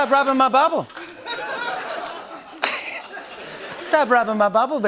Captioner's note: laughter